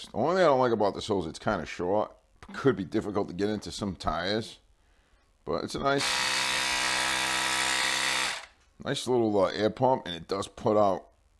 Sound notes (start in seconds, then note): 6.0 compressor starts working